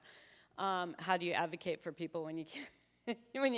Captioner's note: chuckling